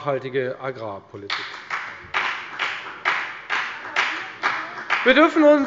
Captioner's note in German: Beifall bei der FDP